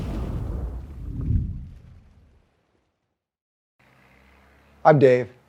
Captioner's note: graphic whooshing